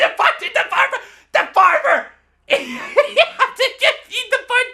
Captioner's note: laughs